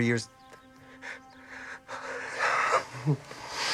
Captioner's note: breathes irregularly